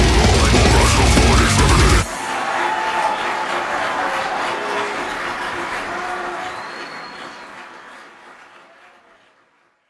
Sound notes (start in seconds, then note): 2.0 crowd cheering; 2.0 music stops